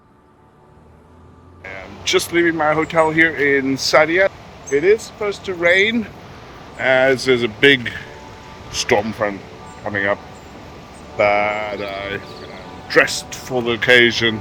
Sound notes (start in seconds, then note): 11.8 bells